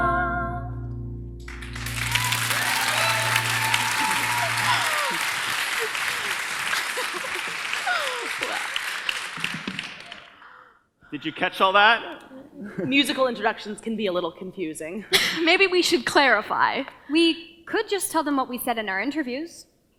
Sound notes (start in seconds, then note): 0.4 piano music ends; 1.4 audience cheers and applause